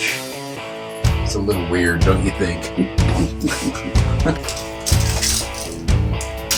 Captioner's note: laughs; rocking music